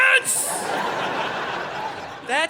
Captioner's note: audience laughing